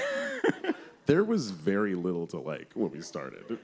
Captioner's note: laughs